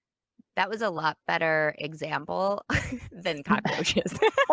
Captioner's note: laughs